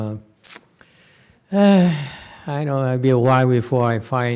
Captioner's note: sighs